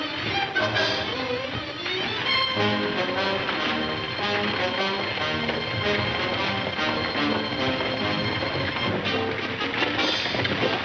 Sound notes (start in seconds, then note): 1.9 wagons clattering